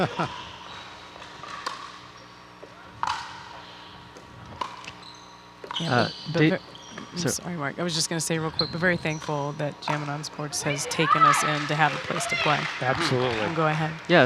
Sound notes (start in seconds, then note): 0.0 laughing; 3.0 ball bouncing